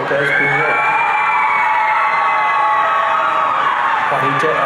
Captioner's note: audience cheering